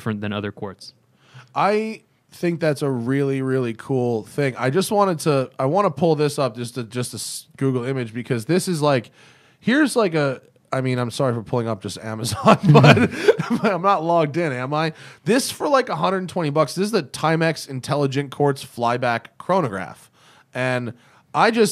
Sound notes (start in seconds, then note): 12.3 laughter